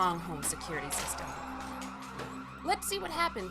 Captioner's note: yelling